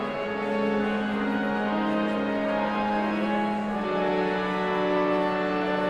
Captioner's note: somber organ music continues; audience chattering continues